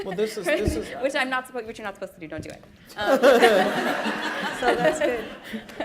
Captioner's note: laughter